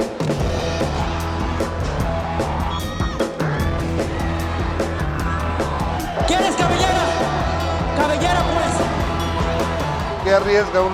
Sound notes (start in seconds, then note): 1.7 rock music; 1.7 speaking Spanish